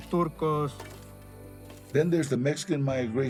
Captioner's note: shovel scraping; in English